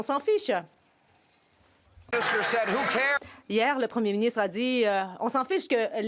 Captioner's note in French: voix de l'interprète